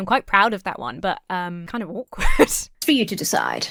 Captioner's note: laughs